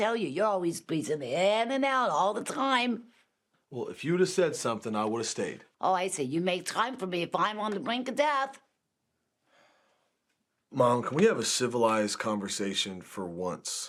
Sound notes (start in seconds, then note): none